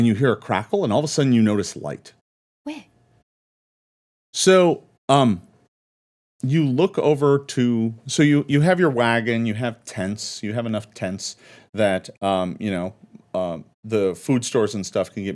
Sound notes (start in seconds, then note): none